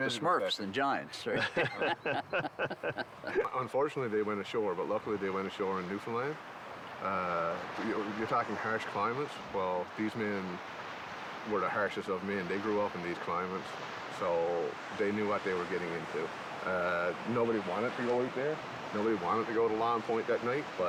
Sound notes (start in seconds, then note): 2.8 laughs